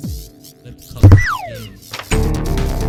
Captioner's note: ominous slide whistle of doom